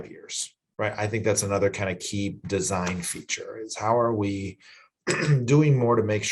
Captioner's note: cough